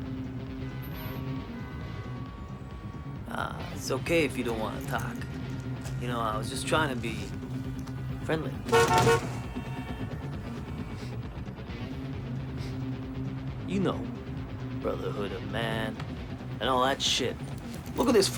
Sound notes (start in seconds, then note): 8.9 horn honks